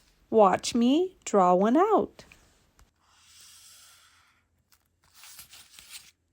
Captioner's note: marker drawing